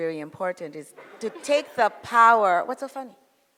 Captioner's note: audience laughs